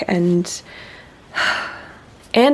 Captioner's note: another happy sigh